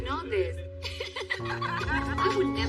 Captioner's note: laughing